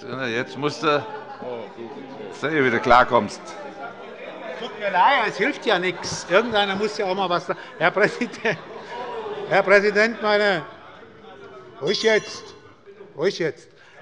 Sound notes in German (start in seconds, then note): 8.8 Fortgesetzte Zurufe - Glockenzeichen des Präsidenten; 12.4 Allgemeine Heiterkeit